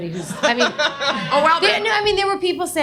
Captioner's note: audience laughs